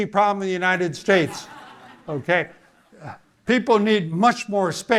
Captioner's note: audience laughing